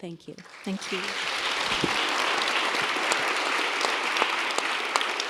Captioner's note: applause